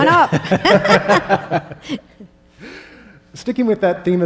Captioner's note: laughing